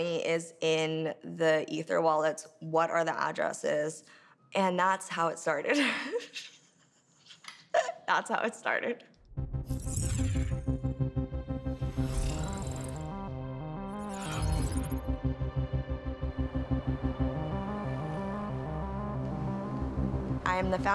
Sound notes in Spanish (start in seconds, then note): 3.6 risas